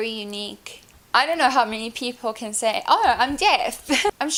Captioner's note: laughs